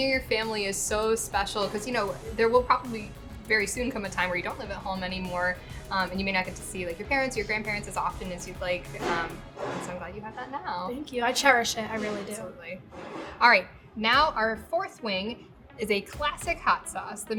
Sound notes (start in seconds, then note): 9.5 objects knocking